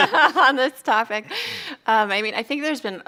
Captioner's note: chuckles